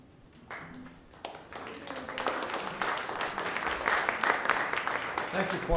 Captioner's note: applause